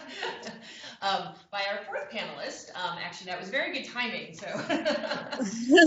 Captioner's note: laughter